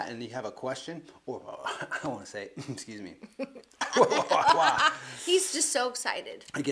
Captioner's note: laughs